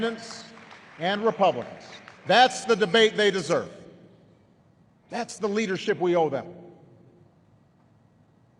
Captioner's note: applause